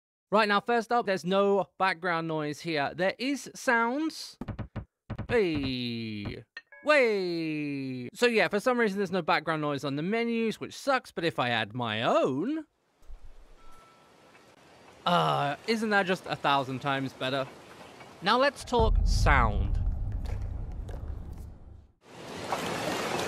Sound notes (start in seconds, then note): 6.6 rings bell; 13.5 inserts beach ocean shore sounds